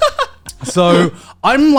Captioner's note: laughs